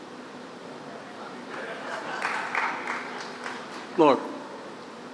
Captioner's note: laughter